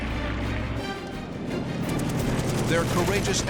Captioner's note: rapid gunfire